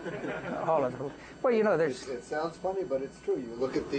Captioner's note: laughter